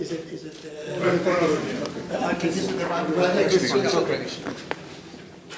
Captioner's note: speaking in foreign language